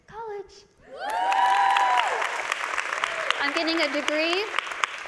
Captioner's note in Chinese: 歡呼及掌聲